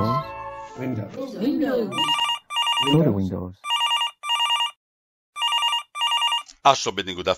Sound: phone ringing

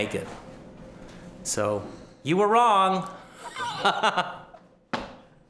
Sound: laughing

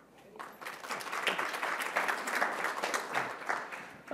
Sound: applause

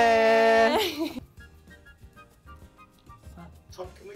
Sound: both chuckles

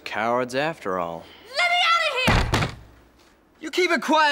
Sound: door banging

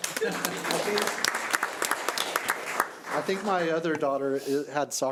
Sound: audience applauding

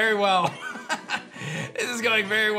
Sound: laughs

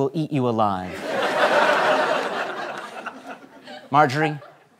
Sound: laughter

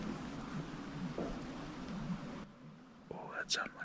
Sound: distant banging

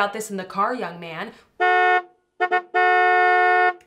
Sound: car Horn Honking Sound Effects

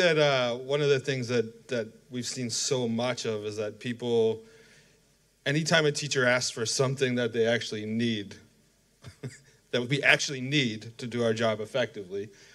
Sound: laughter

